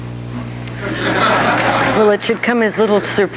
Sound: audience laughs

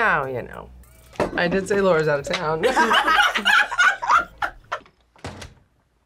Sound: both laugh

